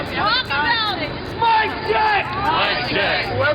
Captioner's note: voiceover